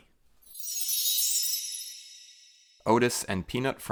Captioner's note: chime